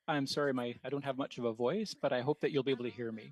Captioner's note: speaking French